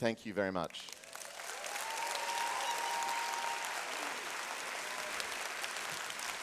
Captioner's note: applause and cheering